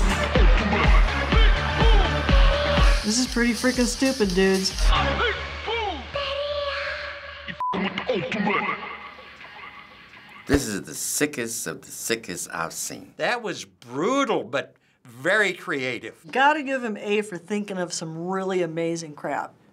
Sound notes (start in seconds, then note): 9.8 echoing